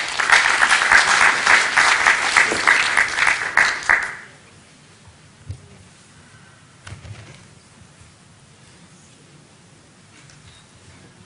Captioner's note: applause